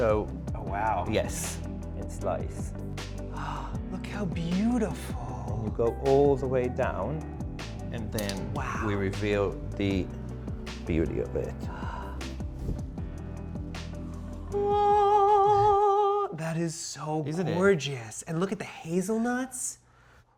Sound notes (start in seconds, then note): 11.4 gasps; 12.2 mellow rhythmic music